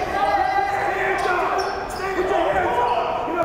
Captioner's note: yelling